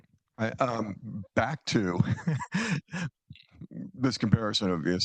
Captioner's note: laughs